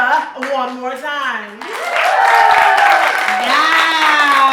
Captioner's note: audience applauding